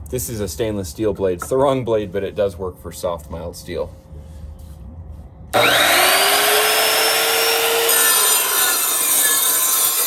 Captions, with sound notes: This is a stainless steel blade, it's the wrong blade, but it does work for soft mild steel. (saw whirring)